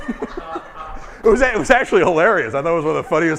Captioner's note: laughing